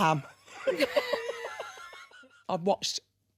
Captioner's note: both laughing